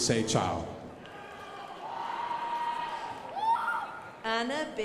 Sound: crowd applauding

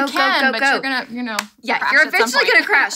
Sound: claps hands

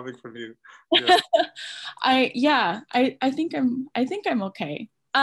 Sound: laughs

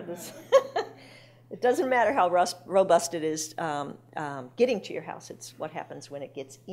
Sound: laughing

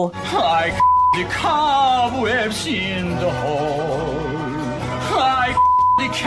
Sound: beep

